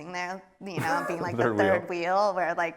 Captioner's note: laughs